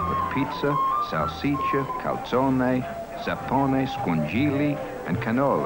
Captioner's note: speaks in foreign language